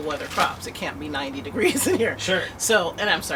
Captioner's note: laughter